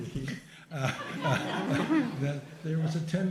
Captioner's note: laughter